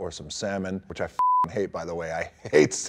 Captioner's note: beep